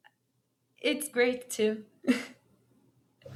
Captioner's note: laughs